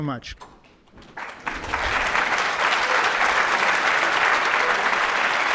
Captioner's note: audience applauds